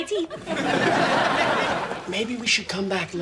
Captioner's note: audience laughing